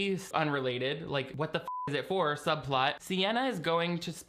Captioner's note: beep